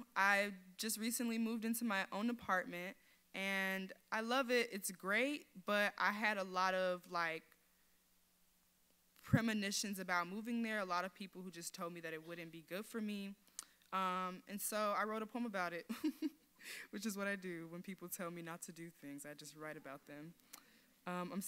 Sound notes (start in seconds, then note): 15.9 giggles